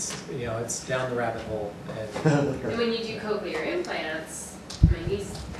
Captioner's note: laughter